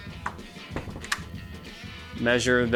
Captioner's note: door latch closes